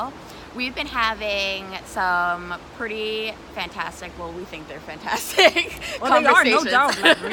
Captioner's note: laughter